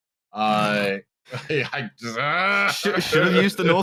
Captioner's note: snorts